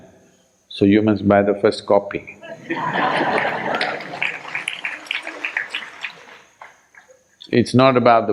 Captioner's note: laughter/Applause